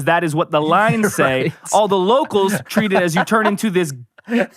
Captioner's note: laughs